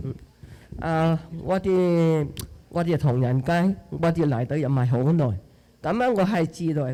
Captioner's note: speaking Chinese dialect